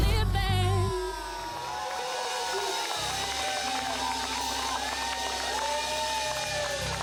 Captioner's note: crowd cheers